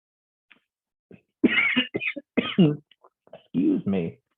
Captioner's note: coughs loudly